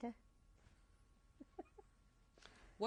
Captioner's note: laughs